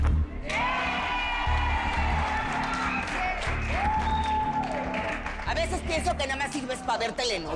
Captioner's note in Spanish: Aplausos y chiflidos